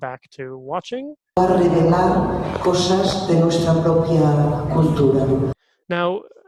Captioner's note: audio in spanish